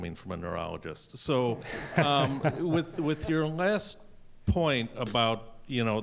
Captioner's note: laughter